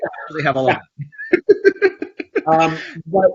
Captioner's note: laughs